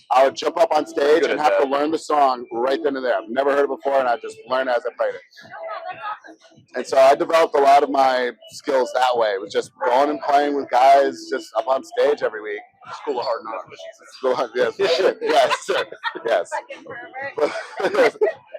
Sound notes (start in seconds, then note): 14.0 laughs